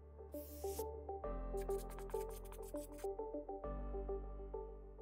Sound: scribbling

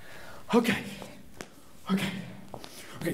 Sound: sighing; footsteps

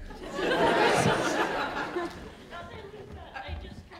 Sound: audience laughing

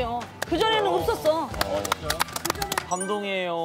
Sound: applause

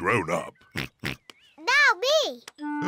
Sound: oinks

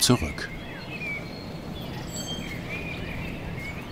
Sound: birds chirping

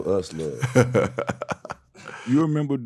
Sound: laughing

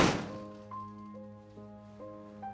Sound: door slams

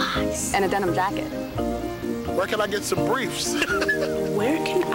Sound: chuckling

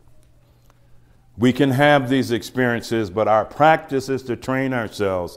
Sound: none

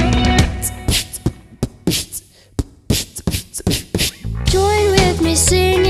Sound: beatboxing

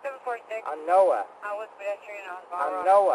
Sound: radio chatter

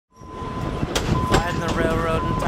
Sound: train dinging

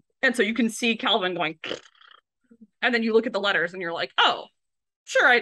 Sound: makes raspberry noise

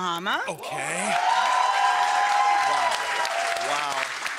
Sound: audience cheering

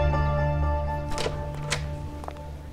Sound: door opens

